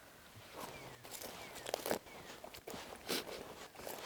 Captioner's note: bushes crunching